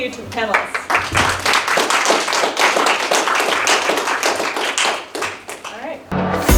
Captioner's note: applause